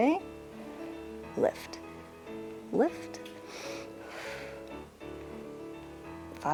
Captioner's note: inhales and exhales